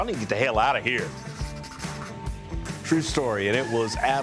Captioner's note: pen scribbles; tires screech